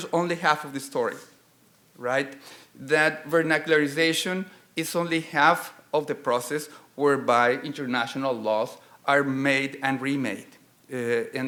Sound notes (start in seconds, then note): none